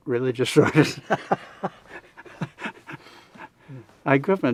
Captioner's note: laughing